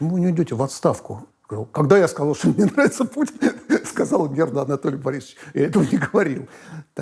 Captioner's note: laughs